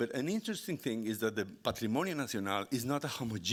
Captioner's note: speaking Spanish